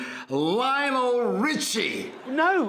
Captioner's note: audience laughing